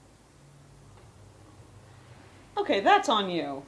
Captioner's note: awkawrd pause